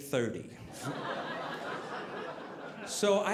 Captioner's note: audience laughing